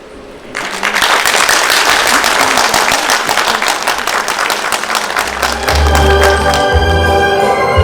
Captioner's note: sounds of applause